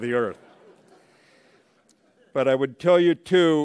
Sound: laughter

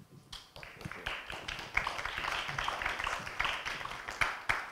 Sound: audience clapping

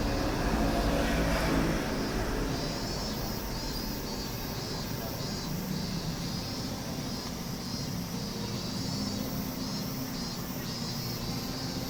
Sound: A noise from outside and the sound of cicadas

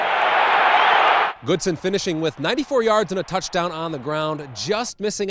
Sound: crowd

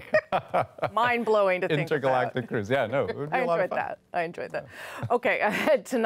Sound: laughter

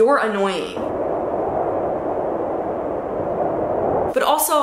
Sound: air blowing

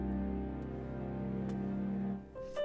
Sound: none

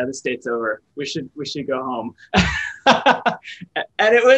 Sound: laughs

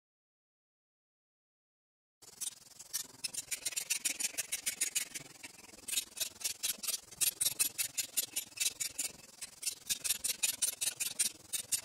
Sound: ratchet noises

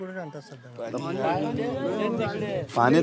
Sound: crowd

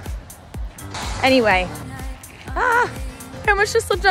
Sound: laughing

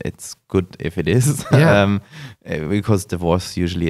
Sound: laughs

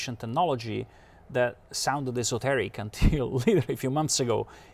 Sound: chuckles

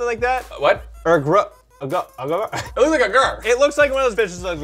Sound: stammering

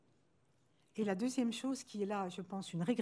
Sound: speaking french

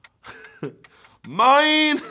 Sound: ticking; laughs

